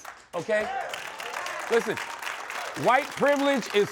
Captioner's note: applause